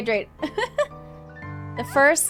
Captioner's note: laughs